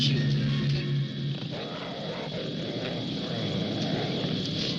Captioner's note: werewolf growling